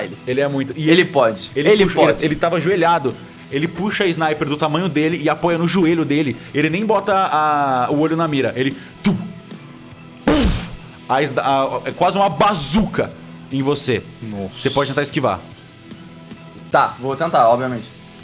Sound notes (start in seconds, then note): 10.2 boom; 10.2 pow